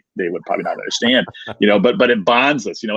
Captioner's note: laughing